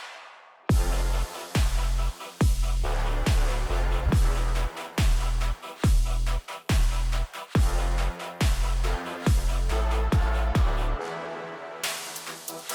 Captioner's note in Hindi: तालियाँ